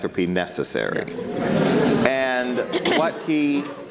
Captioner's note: audience responds